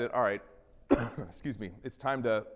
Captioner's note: coughing